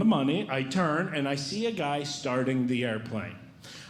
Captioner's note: none